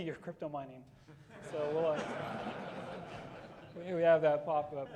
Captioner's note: audience laughing